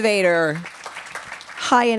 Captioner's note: applause